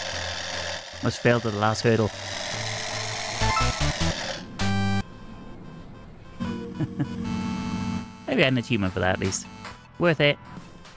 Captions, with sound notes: Must fail to the last hurdle. [laughs] Maybe I need a team up for that at least. Worth it.